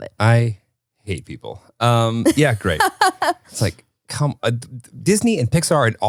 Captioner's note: laughs